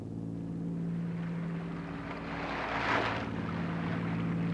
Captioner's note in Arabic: الأمواج تتكسر